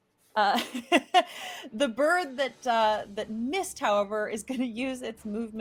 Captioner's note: laughing